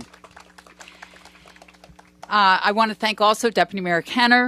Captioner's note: applause